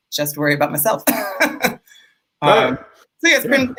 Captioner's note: chuckles